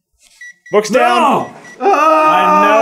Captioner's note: gentle beeping